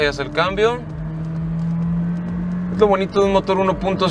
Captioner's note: engine roaring